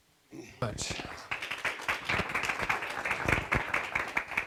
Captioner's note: audience applause